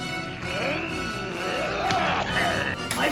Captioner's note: intense fighting